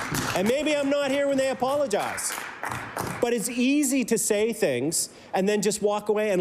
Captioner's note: applause